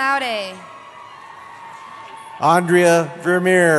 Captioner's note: cheering